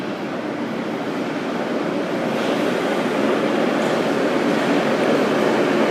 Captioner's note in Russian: прибытие поезда на станцию